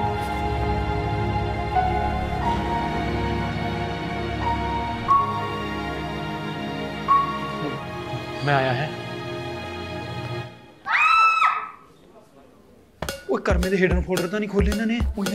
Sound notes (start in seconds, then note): 10.8 Ramneek and Preet screams